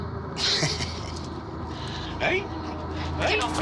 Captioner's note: laughs